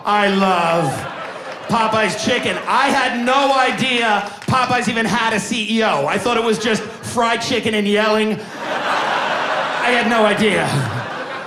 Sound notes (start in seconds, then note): 8.4 audience laughing